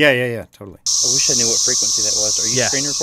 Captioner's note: from audio recording